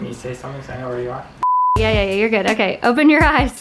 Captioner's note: TV beeps